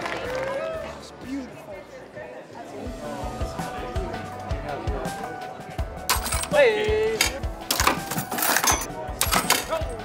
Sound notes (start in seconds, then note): 0.0 cheering; 6.0 bright piano music